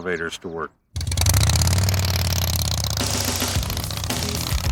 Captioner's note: engine rumbling; rock music